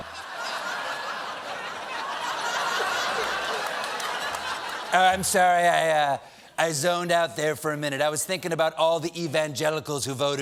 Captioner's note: laughter